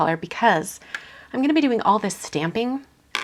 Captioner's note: none